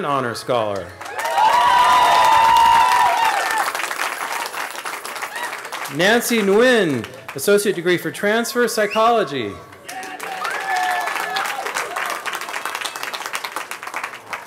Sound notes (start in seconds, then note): 1.0 cheering; 9.8 cheering